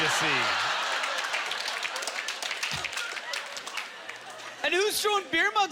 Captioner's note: audience laughter; applause